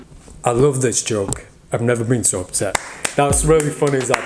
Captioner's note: clapping